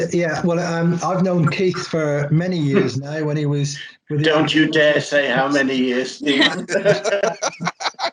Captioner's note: laughter